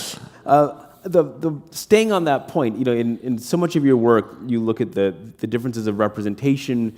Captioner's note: chuckle